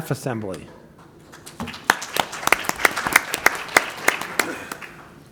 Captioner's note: applause